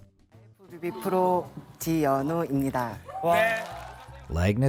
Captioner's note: speaking in foreign language